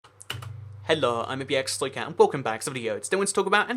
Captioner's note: click